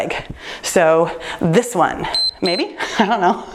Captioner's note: timer beeps